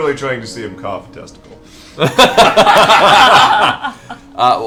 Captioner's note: laughter